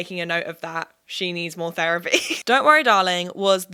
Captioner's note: chuckles